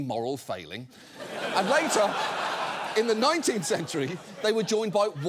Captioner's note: studio audience laughing